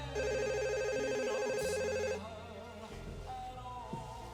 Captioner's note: phone rings